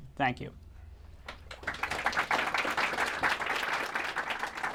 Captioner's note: applause